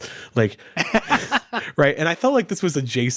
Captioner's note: laughing